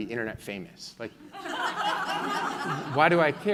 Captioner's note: laughing